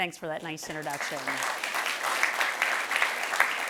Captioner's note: applause